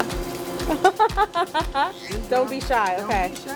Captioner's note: laughs